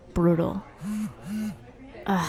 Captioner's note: phone buzzes